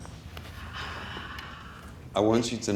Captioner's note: gasps